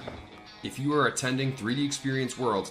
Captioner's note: rock music; gunshot bangs